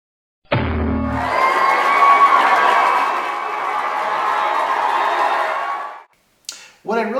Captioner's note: booinggg!!!.... Applause, cheering, and fanfare!